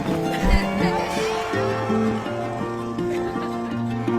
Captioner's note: slow music; people cheering; slow music